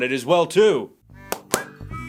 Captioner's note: tap tap!